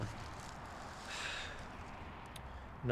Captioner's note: sighs